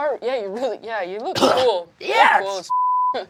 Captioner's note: coughing; beeping